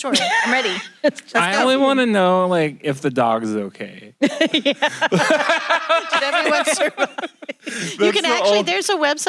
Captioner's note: laughter in room